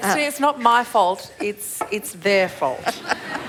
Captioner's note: laughs